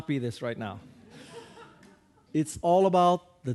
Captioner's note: audience laughing